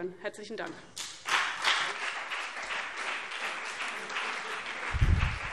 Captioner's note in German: Beifall CDU und BÜNDNIS 90/DIE GRÜNEN